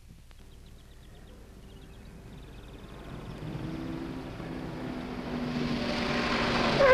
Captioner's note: birds chirping; car engine rumbling